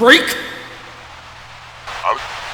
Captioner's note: Static